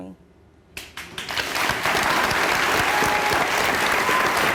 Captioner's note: audience clapping